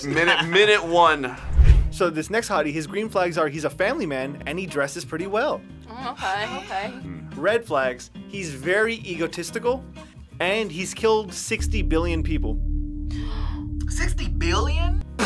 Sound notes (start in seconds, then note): 13.1 gasps